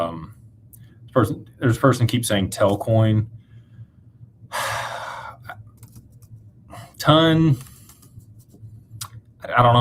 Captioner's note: sighs